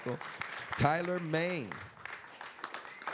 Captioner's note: applause